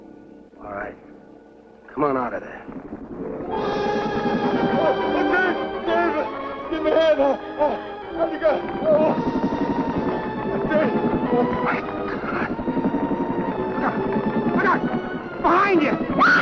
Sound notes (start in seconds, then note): 3.5 ominous music; 9.1 creature rumbling; 16.2 Liz screaming